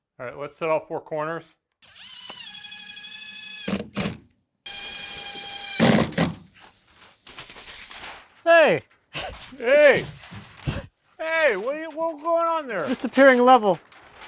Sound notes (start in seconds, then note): 1.8 drilling sounds; 9.8 chuckles